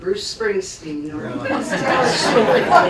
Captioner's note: laughter